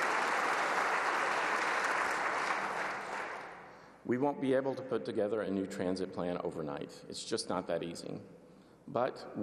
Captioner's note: applause